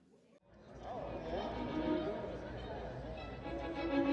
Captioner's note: indistinct background chatter; uplifting music